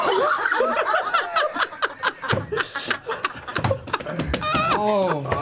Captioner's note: all laugh